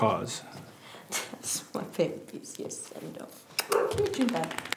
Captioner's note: baby talk